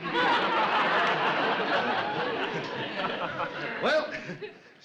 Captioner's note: audience laughs